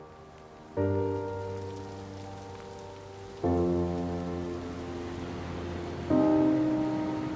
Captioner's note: rain falling